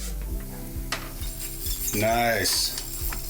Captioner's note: rod whirring